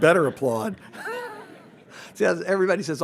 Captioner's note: everyone laughs